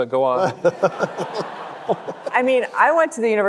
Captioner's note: panelists laughing; audience laughing